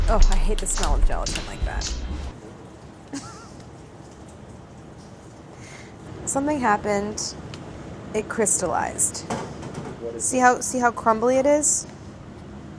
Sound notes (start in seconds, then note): 3.1 laughs